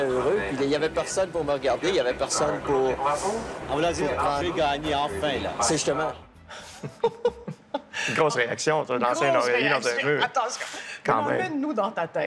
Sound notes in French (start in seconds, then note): 6.6 rires